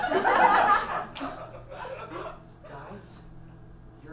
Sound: audience laughs

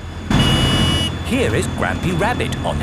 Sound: honking

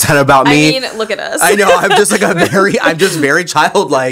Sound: laugh

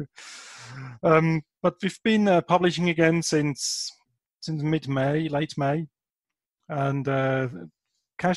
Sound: chuckle

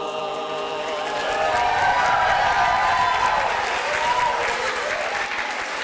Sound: cheering

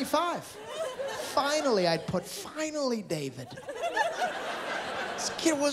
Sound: laughter

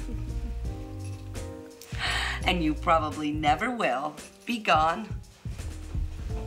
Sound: chuckles

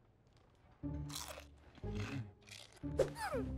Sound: crunching; squeaking, sniffing

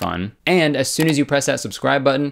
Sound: clicking sound

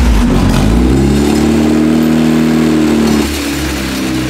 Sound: engine starting up; engine revving

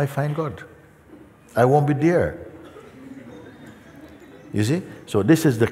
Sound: laughter

